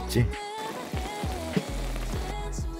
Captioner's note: boiling~